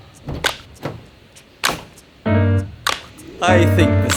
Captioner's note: jazzy piano music; van doors opening